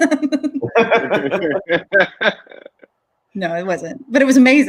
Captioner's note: group laughing; laughs